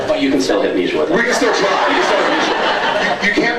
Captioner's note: laughs